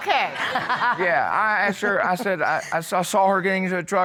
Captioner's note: laughs